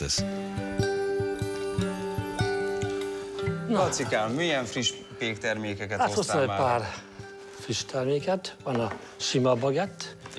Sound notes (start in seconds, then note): 0.1 bright upbeat music continues; 3.9 speaking in foreign language